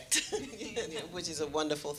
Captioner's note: laughing